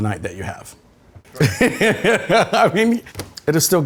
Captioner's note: laughing